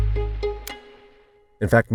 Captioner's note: mysterious music; camera clicks